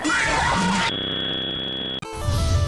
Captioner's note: Static